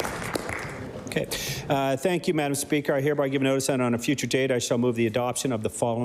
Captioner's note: applause